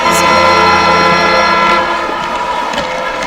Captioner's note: buzzer sounds; cheering